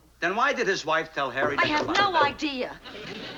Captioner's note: knocking at door